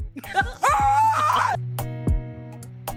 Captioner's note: screams